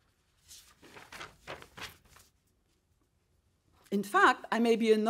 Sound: paper rustling

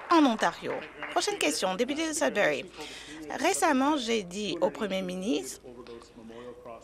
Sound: applause

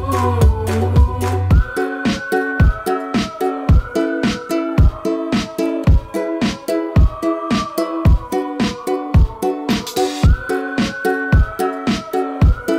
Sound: whistling

